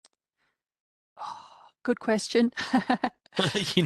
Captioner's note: laughter